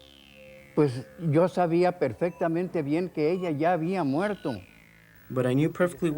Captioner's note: speaking foreign language